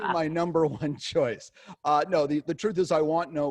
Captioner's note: laughing